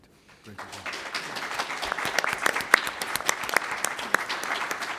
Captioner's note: applause